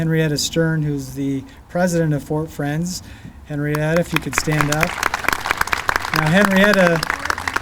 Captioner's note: clapping